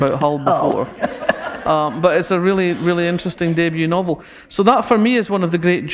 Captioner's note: laughter